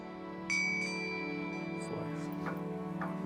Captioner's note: bell chimes